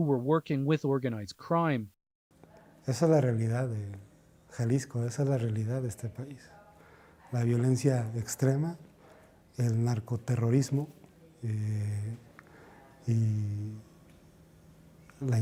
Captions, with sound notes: >> Reporter:HECTOR FLORES GONZALEZ'S SON DANIEL DISAPPEARED AFTER BEING GRABBED BY AGENTS FROM THE ATTORNEY GENERAL'S OFFICE WHO WERE WORKING WITH ORGANIZED CRIME. >>(SPEAKING ALTERNATE LANGUAGE)